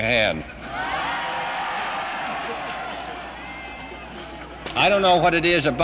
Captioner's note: people cheering